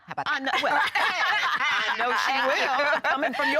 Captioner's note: laughing